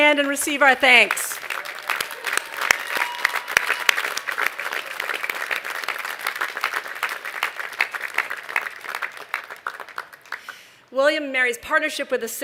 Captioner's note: applause